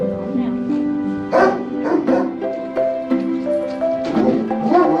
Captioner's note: Chucky barking